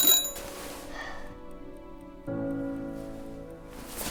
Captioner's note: alarm ringing; Lily yawning